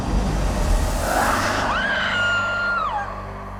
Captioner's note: screams